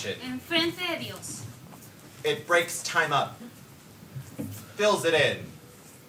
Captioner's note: dancer speaks in foreign language